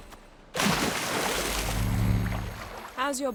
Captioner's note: splash